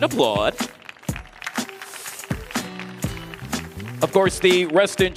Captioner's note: audience applauding; audience cheering